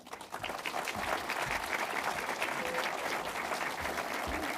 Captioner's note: audience applauds